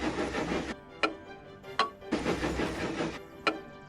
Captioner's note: clock ticks; clock continues ticking